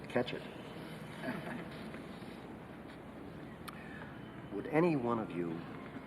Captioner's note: jury chuckles